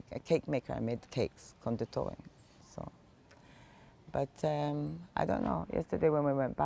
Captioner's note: hebrew